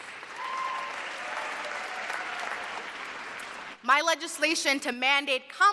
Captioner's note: cheers and applause